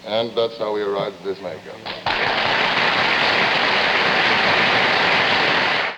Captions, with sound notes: And that's how we arrived at this makeup. (audience applauding)